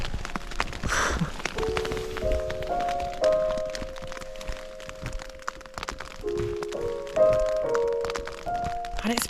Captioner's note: light rain